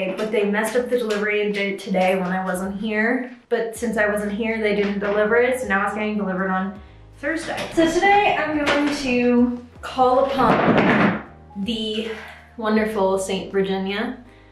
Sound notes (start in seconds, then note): 10.3 item falling